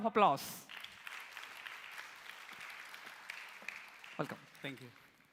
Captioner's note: applause